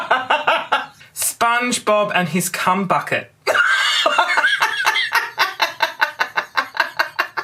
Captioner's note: raucous laughter; raucous laughter